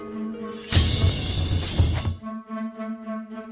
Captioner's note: metal slashing; joyful adventuring music